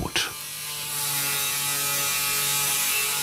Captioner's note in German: Kreissägensurren